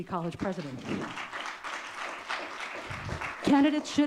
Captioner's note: audience clapping